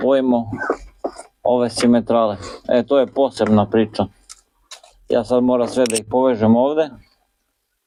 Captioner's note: snort